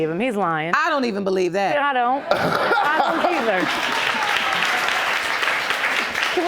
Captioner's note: audience laughing